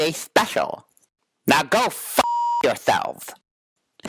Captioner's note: beep